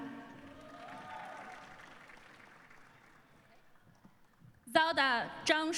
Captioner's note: cheering and applause